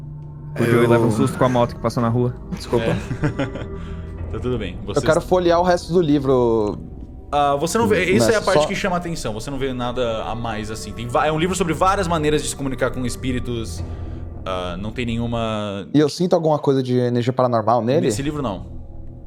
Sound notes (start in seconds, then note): 2.4 laughs